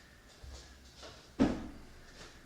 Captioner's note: thump